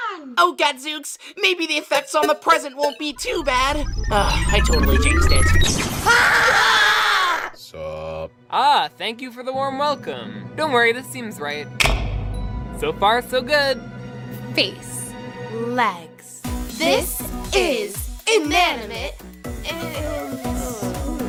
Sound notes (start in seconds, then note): 6.0 thermos screaming followed by test tube screaming; 11.7 lights click on